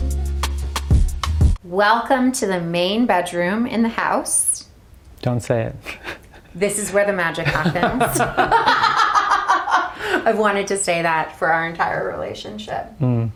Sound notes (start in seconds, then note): 7.4 both laugh